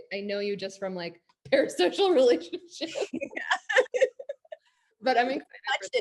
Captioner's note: both laughing